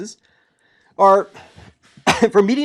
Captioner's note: cough